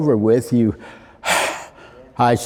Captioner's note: exhales deeply